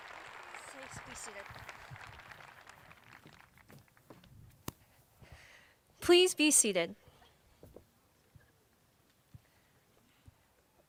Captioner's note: applause